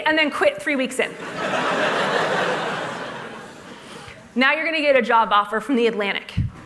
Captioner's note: laughter